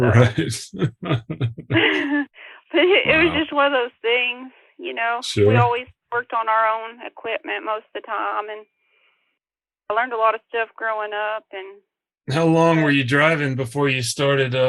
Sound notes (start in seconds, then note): 0.0 laughs